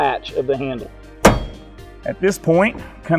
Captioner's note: latch snaps